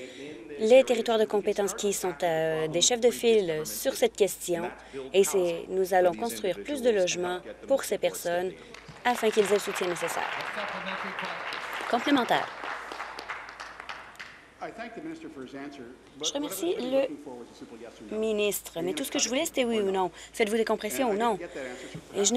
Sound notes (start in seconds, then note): 13.1 applause